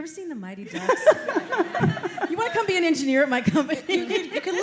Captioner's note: laughter